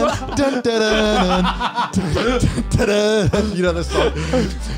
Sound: laughs; upbeat music

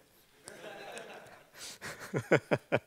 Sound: laughing

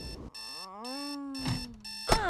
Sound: groaning; telephone ringing

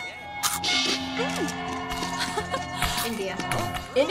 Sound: laughs

